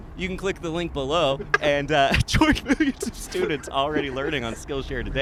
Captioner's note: laughs